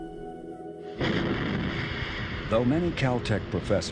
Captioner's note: rocket whooshing